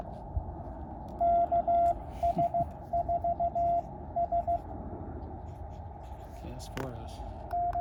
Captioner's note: chuckles